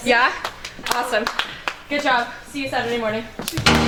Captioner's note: clapping